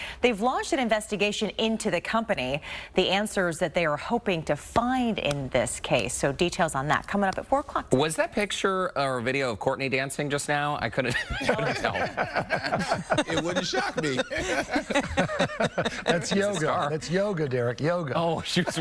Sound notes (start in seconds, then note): 15.7 laughter